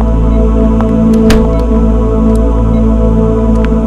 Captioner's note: Door closes